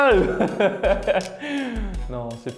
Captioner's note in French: rire